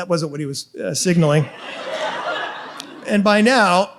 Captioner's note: audience laughs